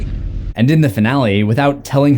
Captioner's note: creepy laughing